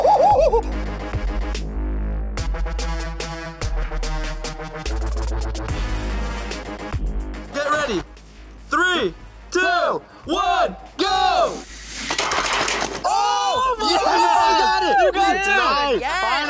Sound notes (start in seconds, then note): 1.3 dramatic electronic music; 12.1 cars clattering; 13.0 cheering